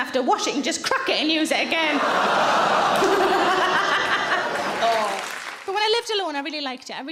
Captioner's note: audience laughing loudly